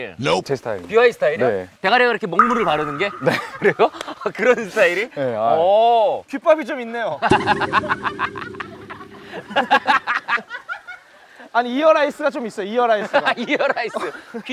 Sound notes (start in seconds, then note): 7.4 laughing hysterically